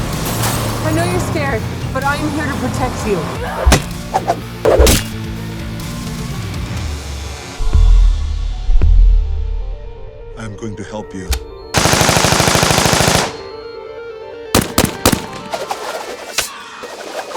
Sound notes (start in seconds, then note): 0.0 cars crashing; 3.6 grunts; 11.7 automatic gunfire; 14.5 handgun fires